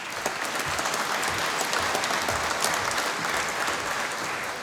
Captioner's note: applause